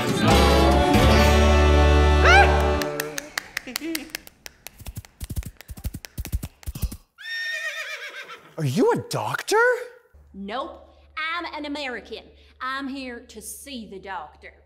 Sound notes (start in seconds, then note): 3.8 horse approaching